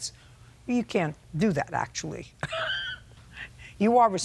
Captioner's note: laughing